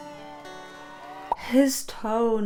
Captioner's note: tender instrumental music; audience cheering